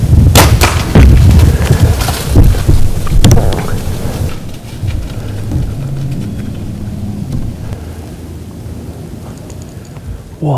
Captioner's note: sound of running; sound of bowshot